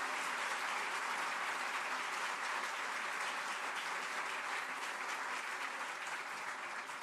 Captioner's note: applause